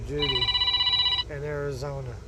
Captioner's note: phone rings